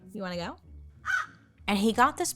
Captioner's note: gentle music; crow caws